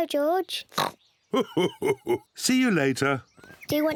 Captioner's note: oinks; laughs